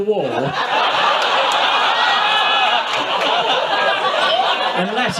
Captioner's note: audience laughs